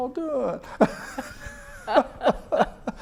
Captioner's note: laughs